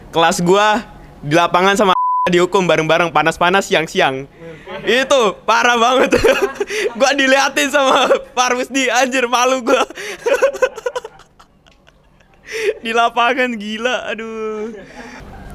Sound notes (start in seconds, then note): 9.5 laughing embarrassedly